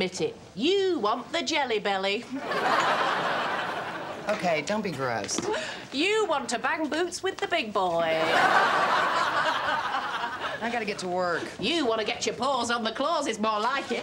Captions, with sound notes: You want the jelly belly. Okay, don't be gross. You want to bang boots with the big boy. ( laughs ) I got to get to work. You want to get your paws on the Claus, is more like it.